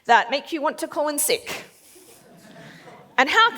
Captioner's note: laughs